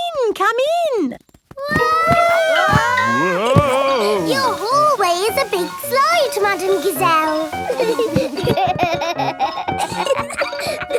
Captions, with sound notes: Come in! Come in! (ALL YELLING) Your hallway is a big slide, Madame Gazelle! (GIGGLING)